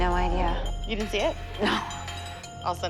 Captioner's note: laughs